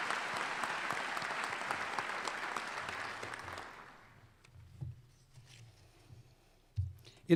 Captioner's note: applause